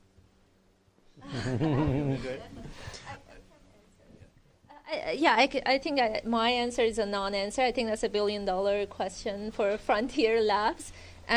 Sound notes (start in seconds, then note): 1.2 laughter